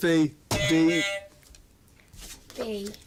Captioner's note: buzzer